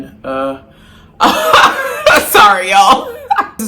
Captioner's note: laughs